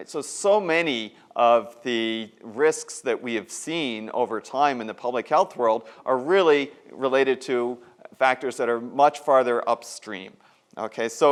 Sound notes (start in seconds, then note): none